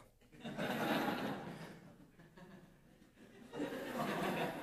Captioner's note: audience laughs